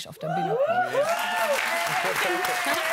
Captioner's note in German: Jubel